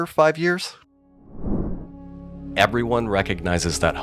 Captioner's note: air whooshes